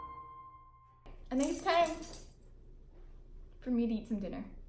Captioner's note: cat jumps